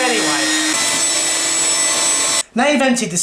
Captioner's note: vacuum running